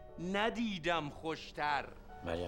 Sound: foreign language

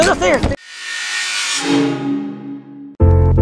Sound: electronic buzzing; calm music

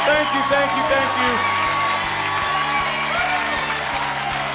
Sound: cheering and applause

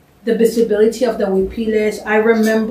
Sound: spanish

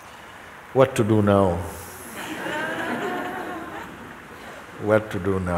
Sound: laughter

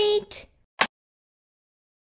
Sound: click!

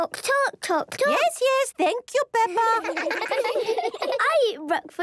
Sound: children laughing

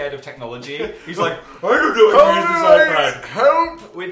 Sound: old man voice

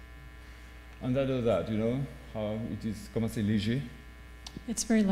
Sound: speaking french

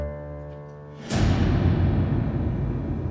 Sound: tension effect

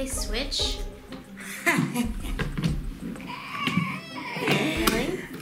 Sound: laughs maniacally; fake-cries loudly

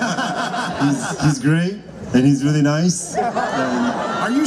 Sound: crowd laughs; crowd laughs

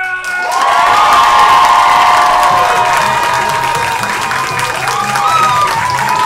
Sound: audience cheers and claps

